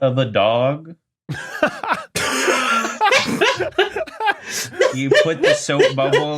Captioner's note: others laughing